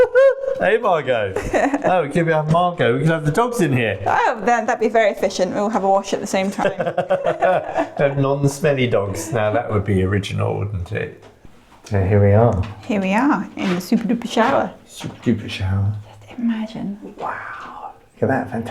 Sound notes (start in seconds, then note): 6.3 laughing